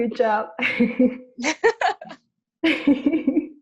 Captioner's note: laughter